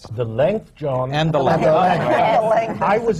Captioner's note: laughter